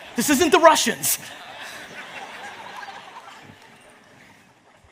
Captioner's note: audience laughs